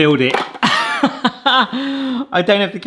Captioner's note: pie maker taps; host laughs